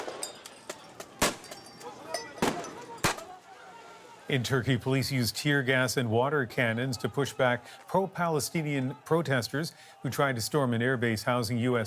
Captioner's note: gunshots